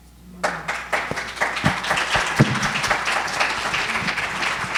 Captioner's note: audience applauding